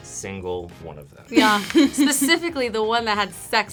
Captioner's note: React laughs